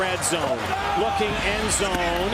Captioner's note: cheering